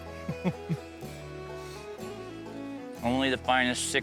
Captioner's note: chuckles